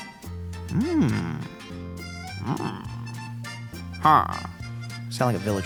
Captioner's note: upbeat music; Roji grunts